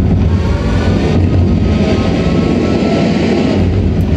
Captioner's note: tornado sounds